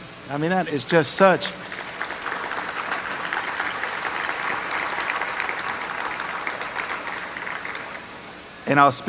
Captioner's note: applause